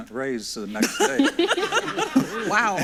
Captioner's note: everyone laughs